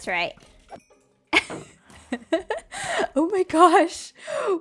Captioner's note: laughs